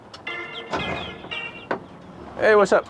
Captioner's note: phone ringtone